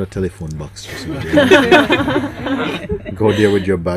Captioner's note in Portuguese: Risos